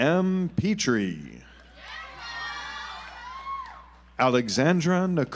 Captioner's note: audience applauds